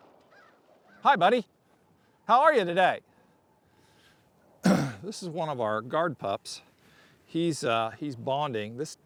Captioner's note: clears throat